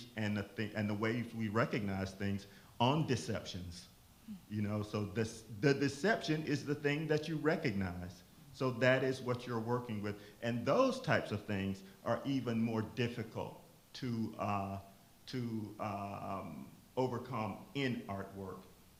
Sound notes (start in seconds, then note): none